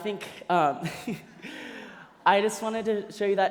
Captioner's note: laughter